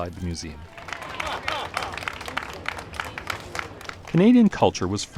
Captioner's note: crowd noises